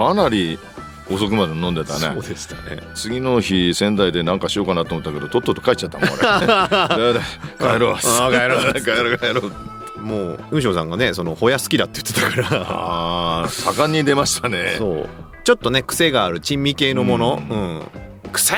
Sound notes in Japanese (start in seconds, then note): 5.9 笑い